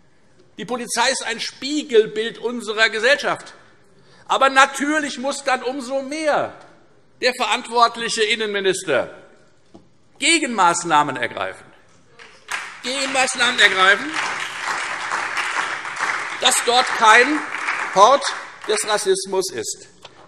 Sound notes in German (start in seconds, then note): 12.1 Beifall Freie Demokraten und SPD